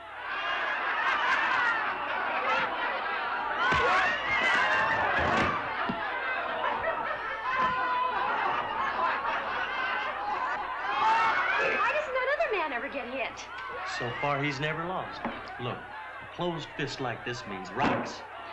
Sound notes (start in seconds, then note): 0.1 crowd laughs; 5.1 thump; 6.6 crowd laughs